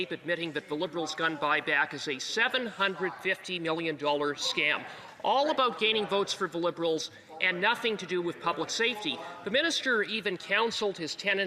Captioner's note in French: voix de l'interprète